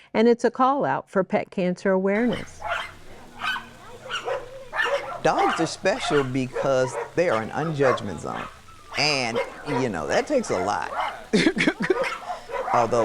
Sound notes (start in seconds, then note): 3.0 dogs barking; 12.0 laughs